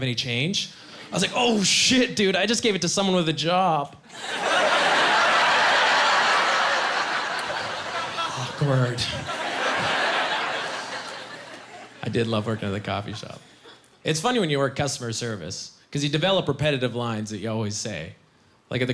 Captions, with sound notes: He's like, "Hey, bro, do you have any change?" I said, "Oh, shit, dude, I just gave it to someone with a job." (Laughing) Awkward. I did love working at the coffee shop. It's funny when you work customer service because you develop repetitive lines that you always say.